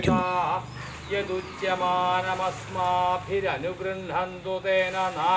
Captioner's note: chanting mantras